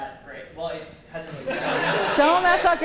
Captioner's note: laughter